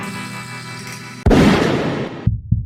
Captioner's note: bang!